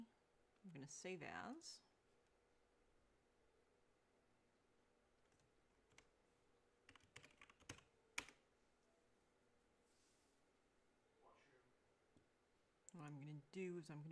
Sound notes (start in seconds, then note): 2.5 mouse and keyboard clicking